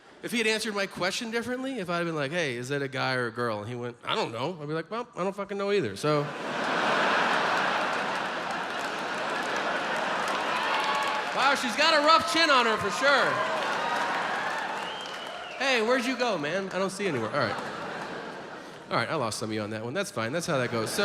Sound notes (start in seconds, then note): 6.1 audience laughs